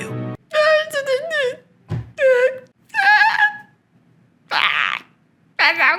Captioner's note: emotional noises